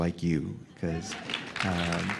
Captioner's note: applause